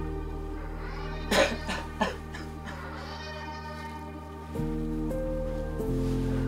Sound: crying

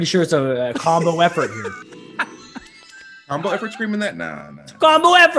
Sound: laugh

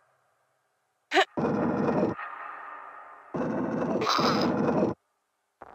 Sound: gruntings

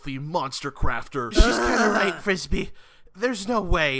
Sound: Nabla groans

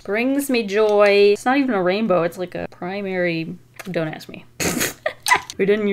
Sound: laughs

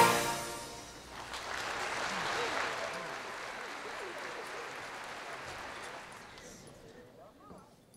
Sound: applause

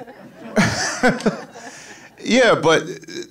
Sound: audience laughing

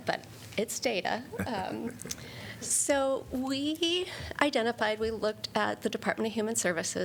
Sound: laughter

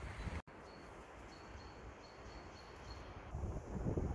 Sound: bird and wind sounds

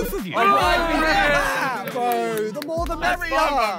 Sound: Sidemen cheer

